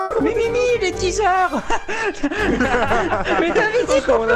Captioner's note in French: rires